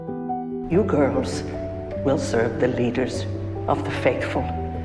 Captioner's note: voiceover